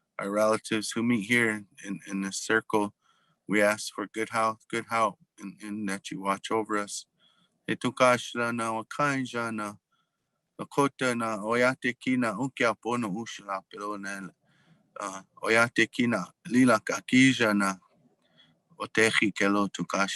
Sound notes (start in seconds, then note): 7.6 speaking in foreign language